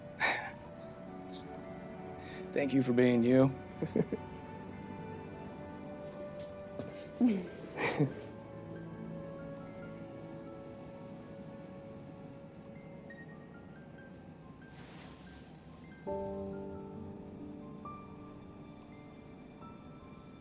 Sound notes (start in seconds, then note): 3.7 chuckles